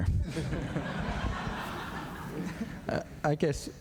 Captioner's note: laughter